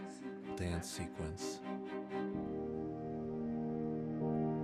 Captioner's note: narrating